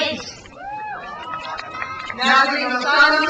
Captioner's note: crowd cheers